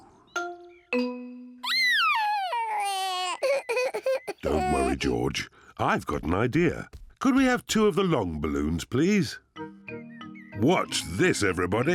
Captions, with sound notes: (SOBBING) Don't worry, George. I've got an idea. Could we have two of the long balloons, please? Watch this, everybody!